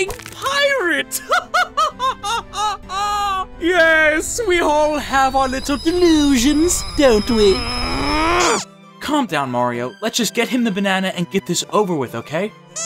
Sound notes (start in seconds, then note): 1.2 laughing; 2.1 kettle whistling; 8.5 squeaky toy sounds; 12.7 squeaky toy sounds